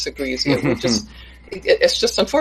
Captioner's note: laughs